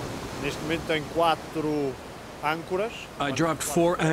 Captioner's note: speaking in foreign language